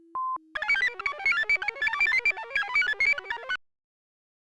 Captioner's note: computer chirps